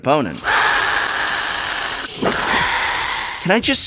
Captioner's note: skree, skreeee